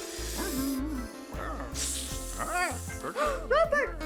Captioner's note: שריקות